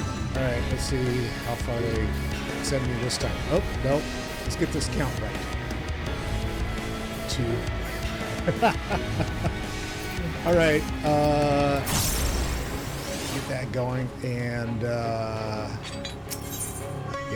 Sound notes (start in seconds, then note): 8.3 laugh